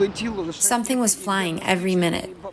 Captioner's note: through translator